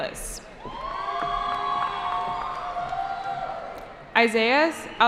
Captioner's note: cheering